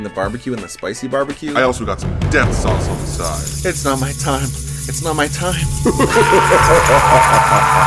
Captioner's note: scream